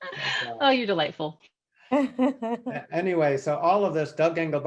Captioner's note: laughs